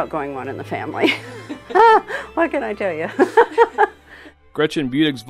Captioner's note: laughs